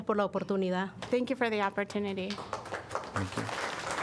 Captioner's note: applause